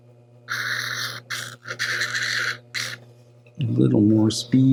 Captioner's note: sander grinding